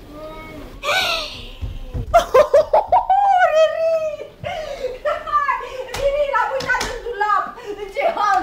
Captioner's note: laughs